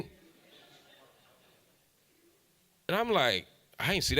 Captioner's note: audience laughs